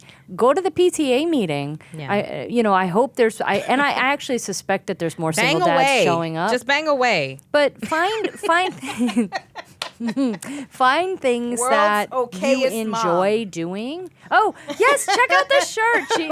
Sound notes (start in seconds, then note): 8.0 laughing